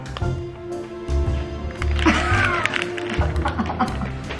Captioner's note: laughing